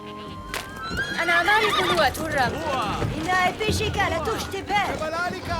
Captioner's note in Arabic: الصوت المنطوق البدوي